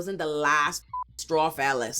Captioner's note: beep